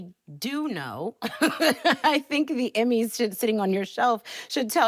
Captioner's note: laughing